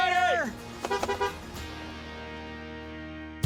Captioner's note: honking